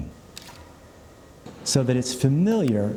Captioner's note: camera clicks